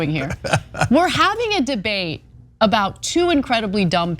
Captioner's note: laugh